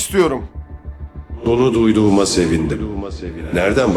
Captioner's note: unknown Echo